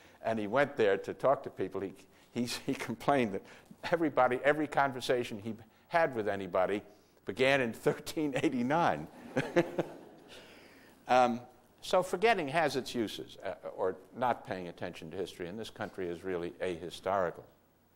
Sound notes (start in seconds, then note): 9.1 laughter